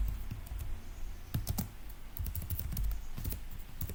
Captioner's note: typing noise